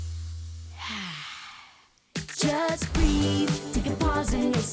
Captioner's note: sighs